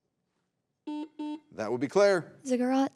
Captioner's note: button blips